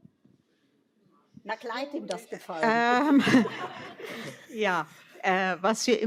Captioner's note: laughter